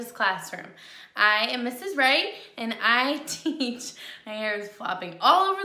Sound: laughs

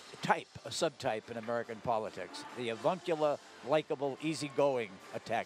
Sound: crowd shouts

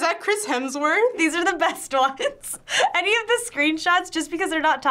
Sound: laughs

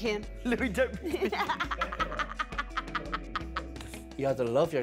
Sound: laughing

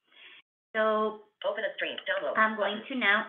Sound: VoiceOver voice

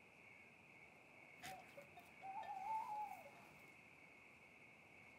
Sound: owl hoots

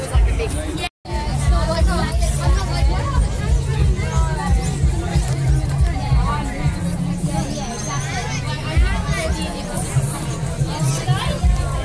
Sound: general Chatting

